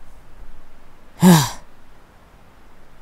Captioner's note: sighs